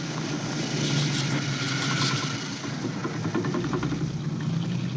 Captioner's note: car engine rumbling